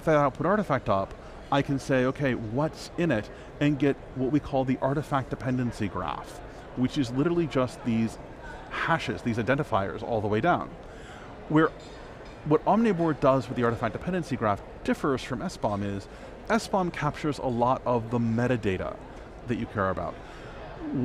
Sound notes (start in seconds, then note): none